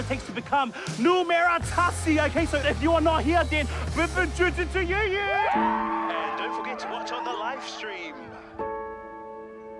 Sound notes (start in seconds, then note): 5.1 cheering